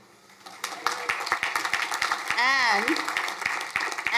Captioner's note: crowd applauding